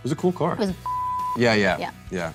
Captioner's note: beeping